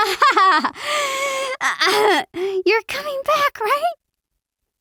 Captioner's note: gasps nervously